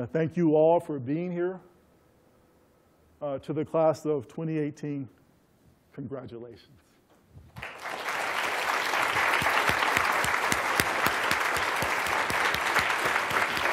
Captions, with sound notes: Thank you all for being here. To the class of 2018, congratulations. [APPLAUSE]